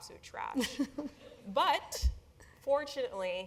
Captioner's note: laugh